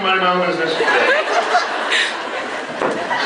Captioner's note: laughs